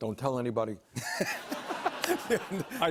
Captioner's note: laughter